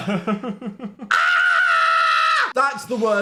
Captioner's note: laughing; Dan screaming